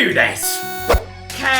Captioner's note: timer sound effect